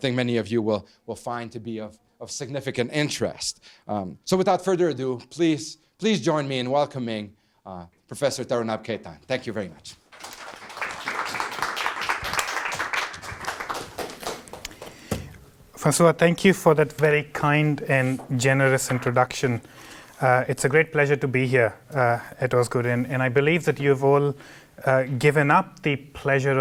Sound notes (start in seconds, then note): 10.1 applause